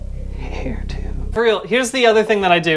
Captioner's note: whispering